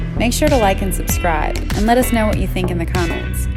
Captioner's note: gentle music; engine hums